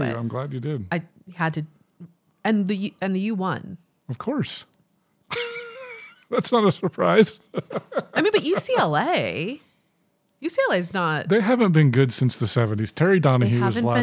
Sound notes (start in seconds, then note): 5.3 chuckling